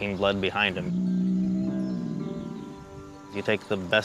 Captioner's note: bulls grunting